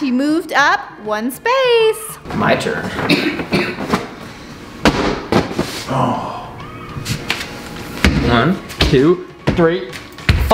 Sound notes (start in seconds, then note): 5.8 groans